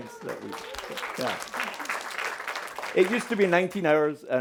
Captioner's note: audience applauding